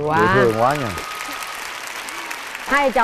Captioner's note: applause